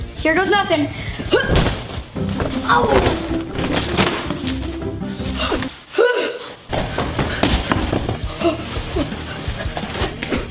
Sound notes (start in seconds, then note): 2.3 thumping and groaning; 6.7 shuddering